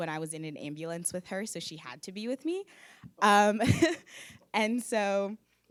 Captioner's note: laughs